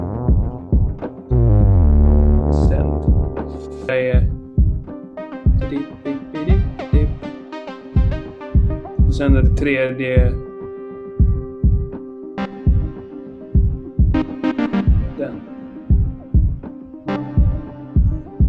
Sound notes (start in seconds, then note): 12.2 in Swedish; 17.2 in Swedish